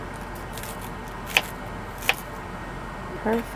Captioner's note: knife tapping